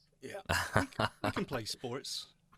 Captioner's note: laughs